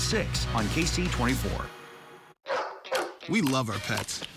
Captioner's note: dog barking